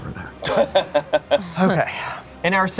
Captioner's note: laughing